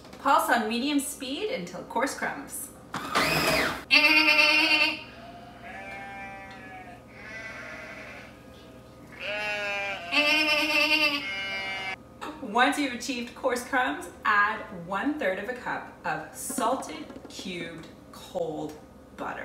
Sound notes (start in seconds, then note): 3.0 food processor whirring; 3.9 imitating goat bleating; 3.9 goats bleating; 9.1 imitating goat bleating